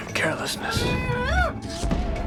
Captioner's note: muffled screaming